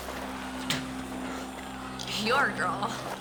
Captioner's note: Janice spits